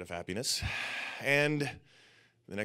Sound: sighs

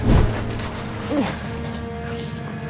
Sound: grunting

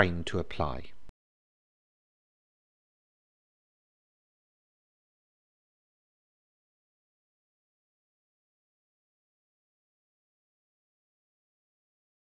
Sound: silence

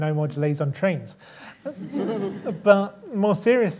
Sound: laughter

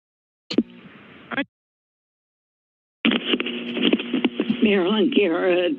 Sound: static sound

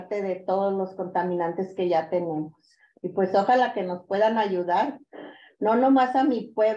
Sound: continues speaking in Spanish

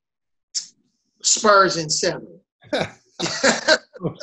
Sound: laughs

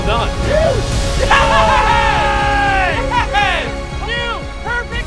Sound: cheering

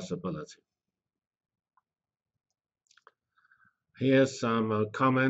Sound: pause

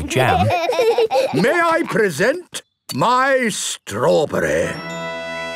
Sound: laughing

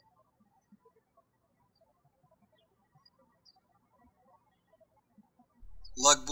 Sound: birds chirping

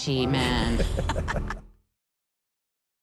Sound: laughter

